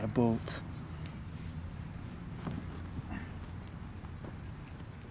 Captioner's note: birds chirping